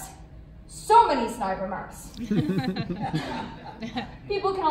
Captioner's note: laughter